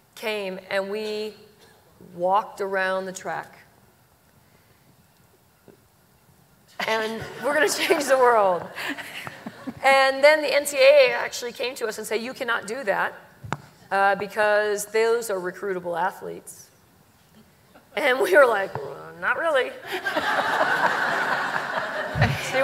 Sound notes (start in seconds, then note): 8.8 laughter